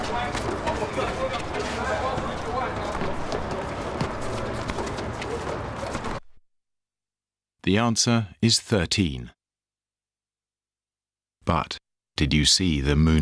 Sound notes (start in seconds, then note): 0.0 feet scuffling, people chattering; 7.9 voiceover